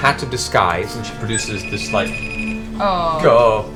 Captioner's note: Facetime noises